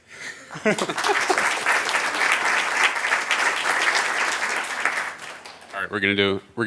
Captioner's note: applause